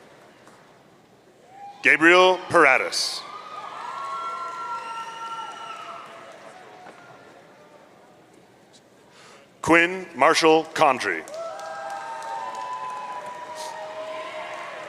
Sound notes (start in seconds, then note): 3.4 audience cheering; 11.2 audience cheering